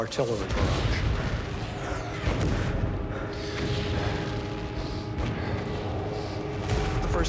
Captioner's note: bombs exploding; heavy breathing